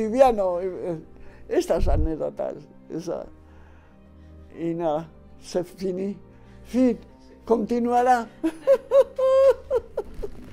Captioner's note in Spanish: risa